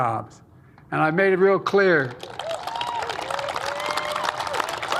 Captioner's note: applause